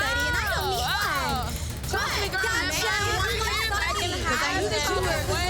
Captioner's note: overlapping chatter